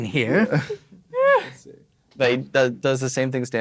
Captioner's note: players laughing